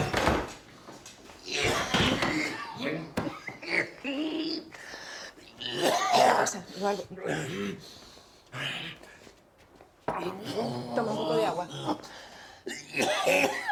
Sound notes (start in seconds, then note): 7.9 breathes heavily; 12.6 coughing